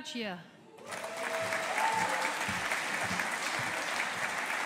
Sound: audience applauding

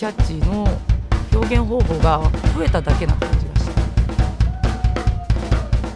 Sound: drum music; speaking in foreign language

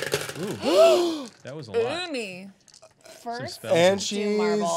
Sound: gasps

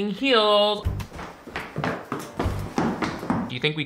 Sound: heels clanking

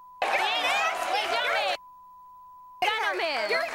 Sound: beep; beep

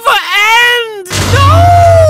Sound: loud explosion

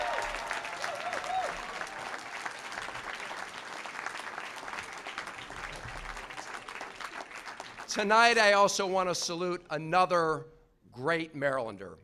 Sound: applause

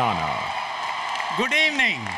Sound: applause, Cheering

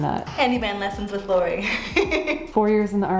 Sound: laughs

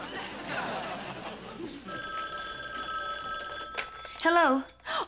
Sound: phone ringing

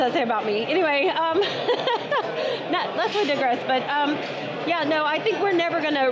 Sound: laughing

